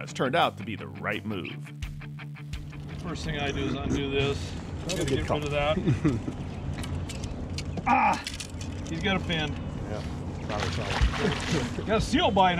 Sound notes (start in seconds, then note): 9.3 chuckling